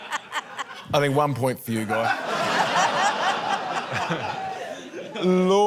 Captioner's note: laughter